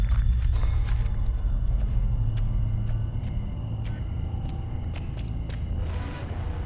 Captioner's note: footsteps crunching; tense music; cicadas buzzing